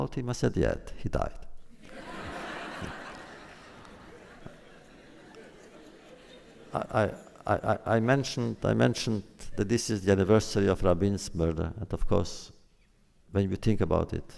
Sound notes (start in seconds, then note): 1.7 laughter